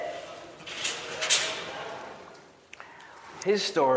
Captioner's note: audience chattering